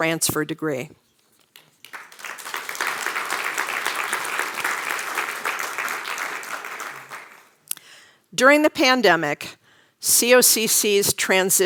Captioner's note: applause